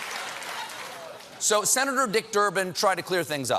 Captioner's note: applause